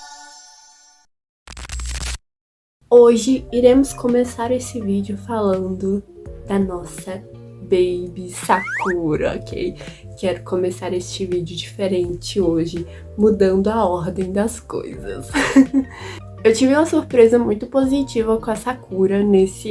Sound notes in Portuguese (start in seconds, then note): 15.3 risos